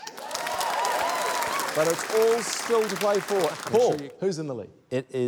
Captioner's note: cheering, applause